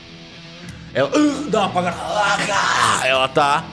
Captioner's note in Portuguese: grunhidos